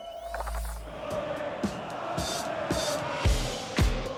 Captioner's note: crowd chanting